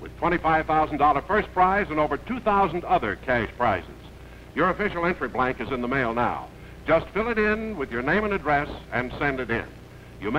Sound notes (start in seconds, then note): none